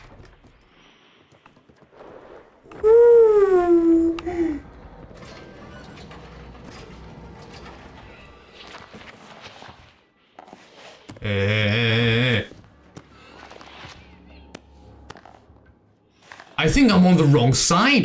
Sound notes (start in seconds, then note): 8.4 sighs